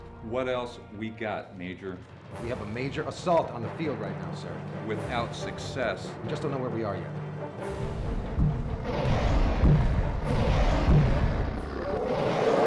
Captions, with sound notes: - What else we got, major? - We have a major assault on the field right now, sir. - Without success. - Just don't know where we are yet. (growling)